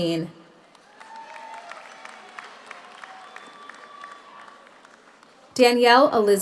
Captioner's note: audience applauds; audience cheers